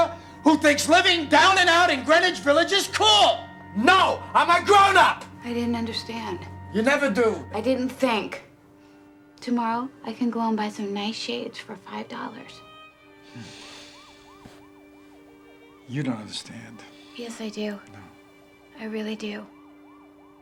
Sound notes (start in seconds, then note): 12.7 groans